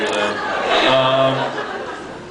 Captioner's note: laughs